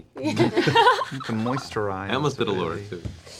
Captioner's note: laughter